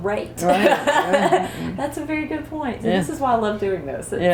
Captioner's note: laughter